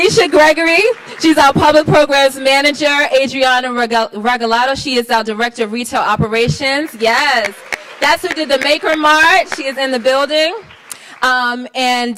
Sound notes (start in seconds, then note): 6.6 applauds